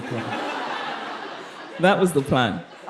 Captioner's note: participants laughing